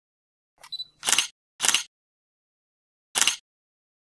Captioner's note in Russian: звуки камеры